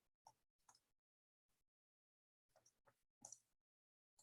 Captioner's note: mouse clicks